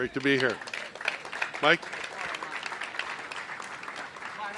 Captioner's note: applause